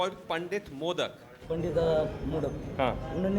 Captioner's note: speaking hindi